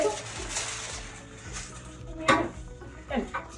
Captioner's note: material crinkling; light upbeat music